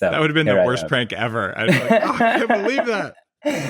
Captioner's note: laughs